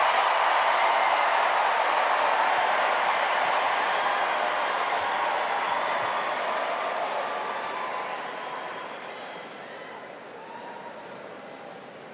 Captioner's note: cheers and applause